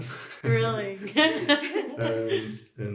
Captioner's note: laughs